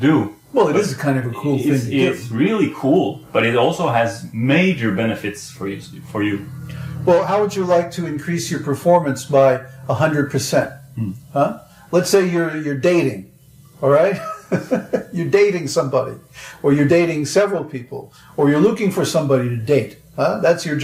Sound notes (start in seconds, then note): 14.1 laughs